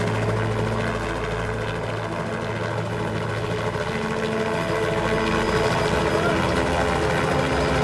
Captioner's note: helicopter whirring